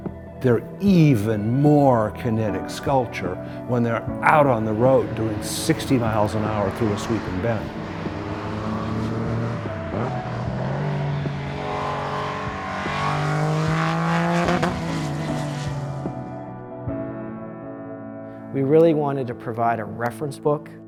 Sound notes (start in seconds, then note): 9.8 cars accelerating